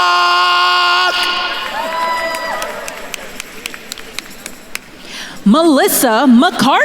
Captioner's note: attendees cheering and applauding